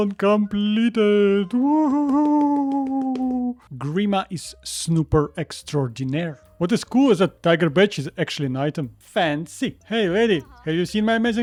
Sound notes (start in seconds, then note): 1.2 my autistic celebration applause